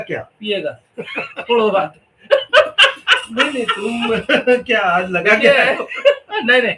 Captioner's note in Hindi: हंसी